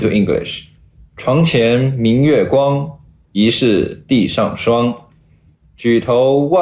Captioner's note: speaker 6 speaking Chinese